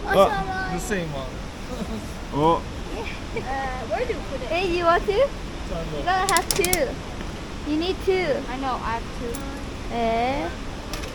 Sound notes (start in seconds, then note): 6.3 coins